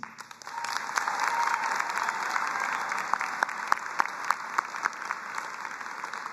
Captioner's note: audience applauding and cheering